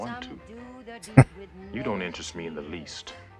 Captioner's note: chuckling